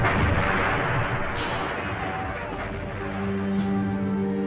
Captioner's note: explosion booming; somber music